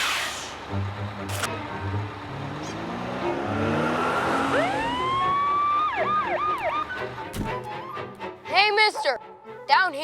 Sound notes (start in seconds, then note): 3.7 sirens